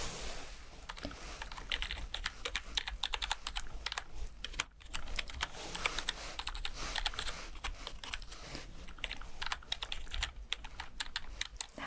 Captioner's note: typing sounds